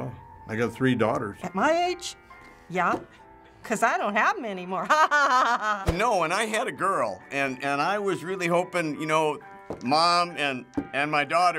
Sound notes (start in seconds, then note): 4.8 cheeky laugh